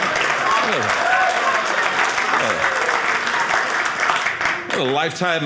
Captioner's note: audience laughing; audience cheering